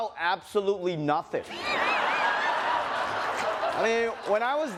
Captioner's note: laughter